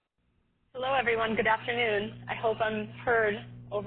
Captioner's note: voiceover